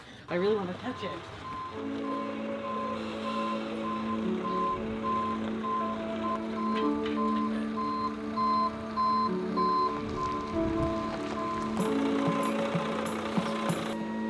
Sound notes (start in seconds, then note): 2.0 reverse alarm beeping; 11.5 gentle music